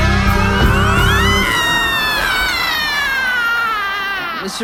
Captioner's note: MRS DODDS screams